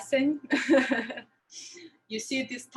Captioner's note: laughs